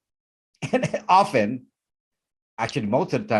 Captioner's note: laughs